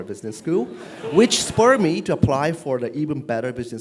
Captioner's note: laugh